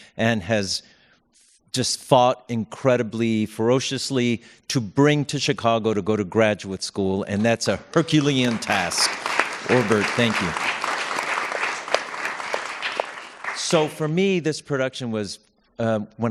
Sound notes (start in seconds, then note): 10.8 applause